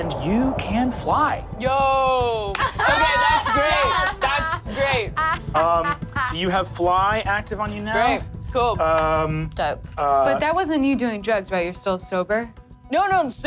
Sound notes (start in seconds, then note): 2.5 all laugh